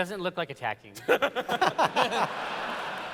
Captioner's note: laughter